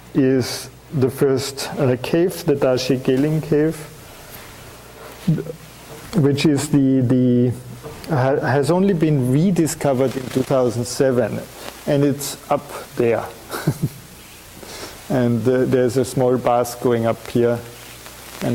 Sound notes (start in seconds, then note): 13.4 chuckling